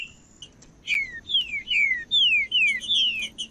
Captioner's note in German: trinca ferro cantando